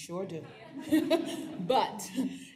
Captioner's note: laughs